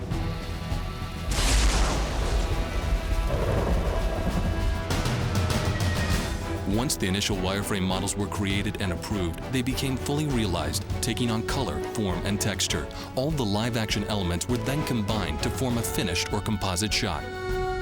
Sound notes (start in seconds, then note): 1.0 thunderclap